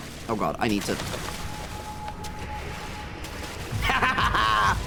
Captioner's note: splashing; laughs